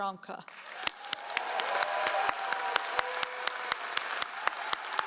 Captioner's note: all applauding